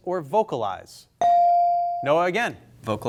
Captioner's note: bell sounding